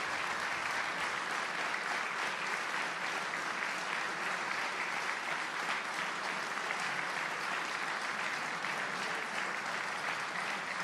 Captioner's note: applause